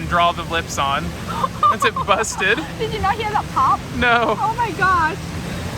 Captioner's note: laughs